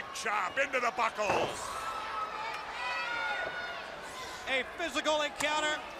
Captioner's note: crowd chatter